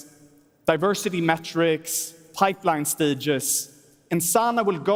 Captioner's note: none